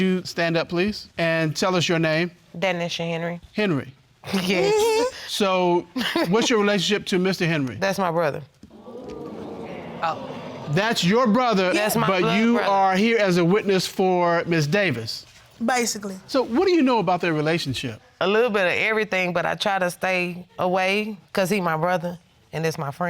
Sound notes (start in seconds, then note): 6.0 chuckles; 8.7 audience murmuring